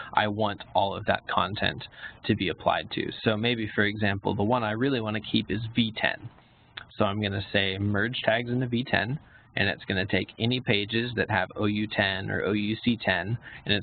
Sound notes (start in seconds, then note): none